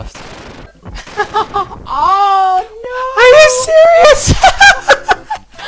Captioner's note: laughs; blowing out the mic; both laughing